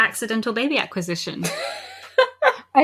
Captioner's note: laughs